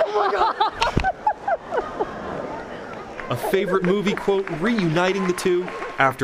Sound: laughter

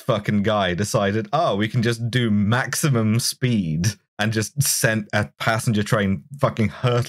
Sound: none

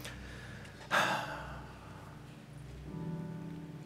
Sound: sighs

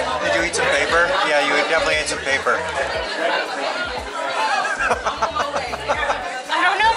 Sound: laughs

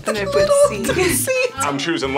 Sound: laughs

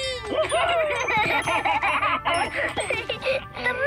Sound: laughing

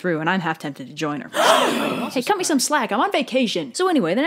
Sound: gasps

